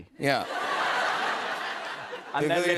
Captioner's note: laughter